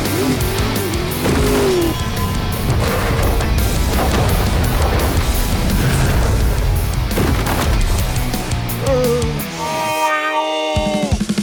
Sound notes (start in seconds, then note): 8.7 sad zombie noises